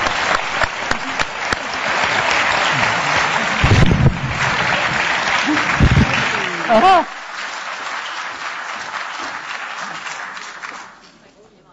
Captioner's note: applause